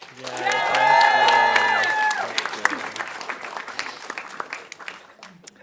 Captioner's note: audience cheering and applauding